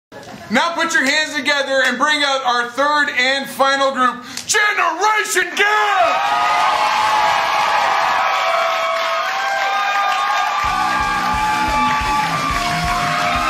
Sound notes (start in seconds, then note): 6.0 cheers & applause; 10.6 fast rock music; 10.8 cheers & applause